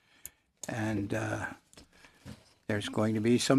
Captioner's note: speaking French